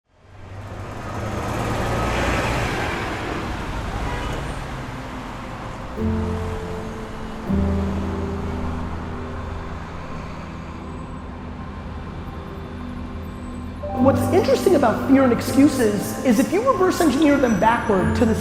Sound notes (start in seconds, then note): 0.5 city traffic passing; 6.1 gentle music